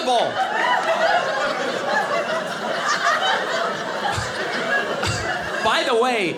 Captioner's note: audience laughing